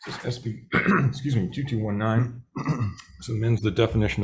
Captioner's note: coughs